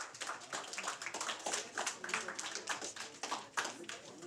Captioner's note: applause